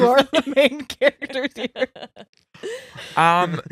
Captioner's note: laughing